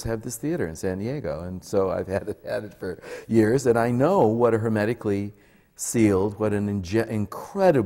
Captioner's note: laughs